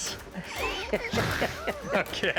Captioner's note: laughing